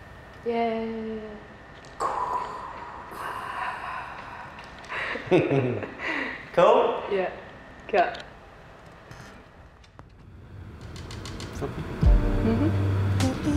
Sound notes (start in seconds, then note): 1.8 whisper cheers; 4.8 chuckle